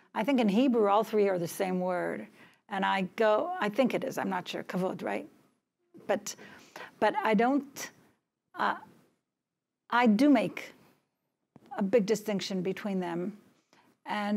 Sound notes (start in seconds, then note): 4.8 hebrew